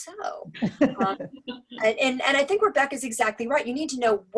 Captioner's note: laugh